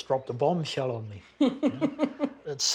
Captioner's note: chuckles